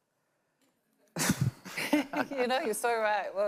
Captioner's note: panelists laughing